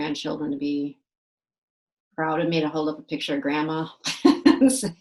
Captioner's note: laughs